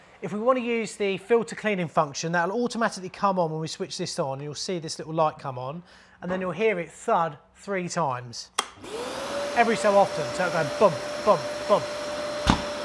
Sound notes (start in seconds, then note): 8.9 wet vac roars; 12.4 wet vac booms